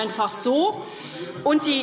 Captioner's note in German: Zuruf: Du liebe Zeit! - Weitere Zurufe